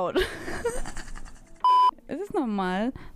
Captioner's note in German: lachen; piep